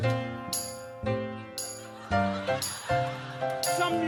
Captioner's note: audience laughs